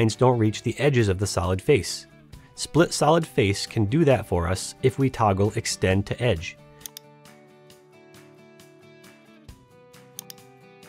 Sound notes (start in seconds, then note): 6.8 mouse clicks; 8.1 gentle upbeat music; 10.1 mouse clicks